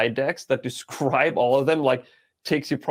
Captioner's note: chuckling